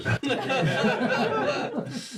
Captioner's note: all laugh